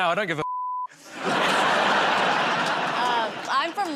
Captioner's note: laughter